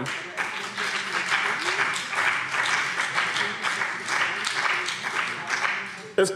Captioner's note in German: Beifall BÜNDNIS 90/DIE GRÜNEN und CDU